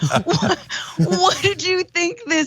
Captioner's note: laugh